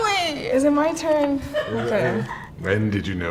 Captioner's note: producer laughs